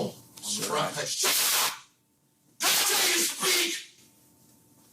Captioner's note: judge shouting